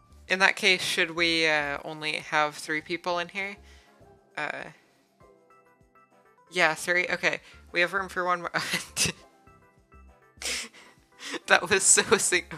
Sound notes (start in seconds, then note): 10.3 chortle; 11.1 laughing